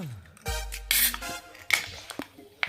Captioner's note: can being opened